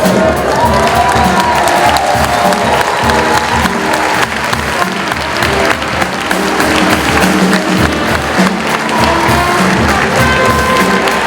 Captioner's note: cheering